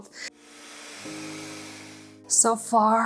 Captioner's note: gadget buzzing